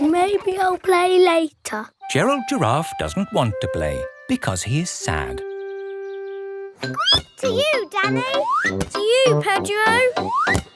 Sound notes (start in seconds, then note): 6.8 squeaks